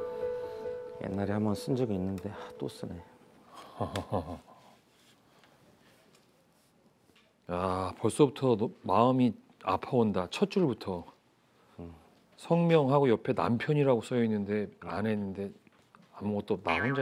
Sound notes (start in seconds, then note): 3.7 laughing